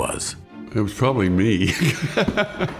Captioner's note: laughs